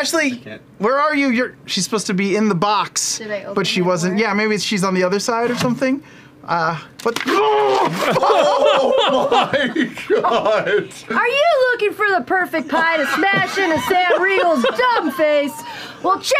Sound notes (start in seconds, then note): 7.2 groan-yells; 9.4 laughter